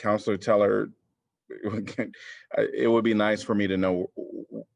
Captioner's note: laughter